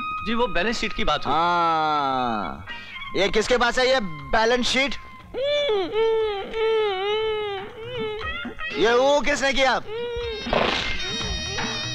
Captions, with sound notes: Sir, balance sheet. - Who has the balance sheet? (Grunts) Who made that noise?